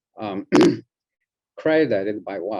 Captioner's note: clears throat